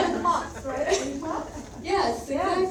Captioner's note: speaks faintly